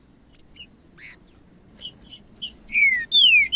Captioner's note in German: trinca ferro cantando